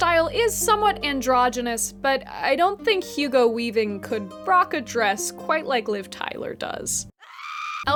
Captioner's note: scream